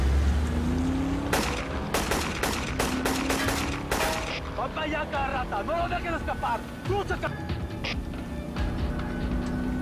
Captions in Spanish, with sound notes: [Sonido de los carros] [Disparos] - !VAN PA' ALLA, RATAS! !NO LOS DEJEN ESCAPAR! !TRUCHAS, ------!